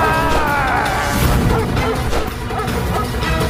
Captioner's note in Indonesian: berteriak